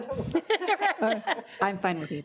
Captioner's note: trustees laughing